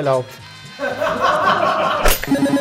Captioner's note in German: Gelächter